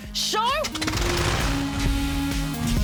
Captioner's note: propeller whirrs